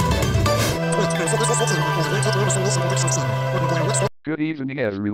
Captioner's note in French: annonceur parlant à grande vitesse